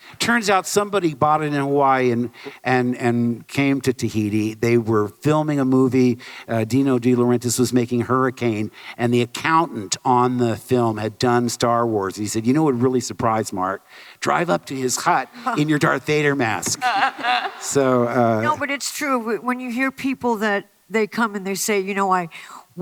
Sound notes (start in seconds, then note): 16.7 laughter